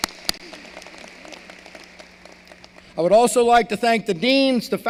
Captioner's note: applause